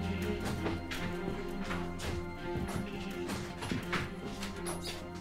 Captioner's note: footsteps thudding